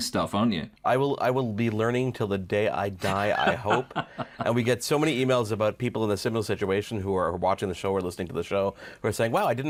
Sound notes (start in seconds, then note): 3.0 laughs